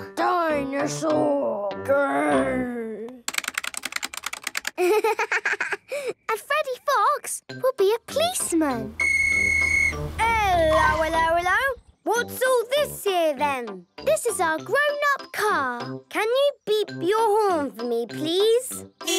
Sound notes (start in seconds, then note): 3.2 keyboard clicking; 9.0 whistle blowing